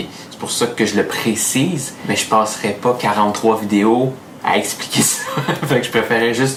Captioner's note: laughs